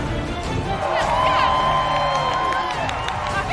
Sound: cheering

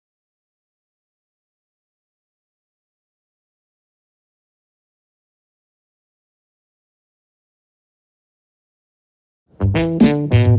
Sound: silencio

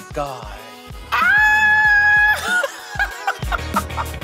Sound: Laverne hoots

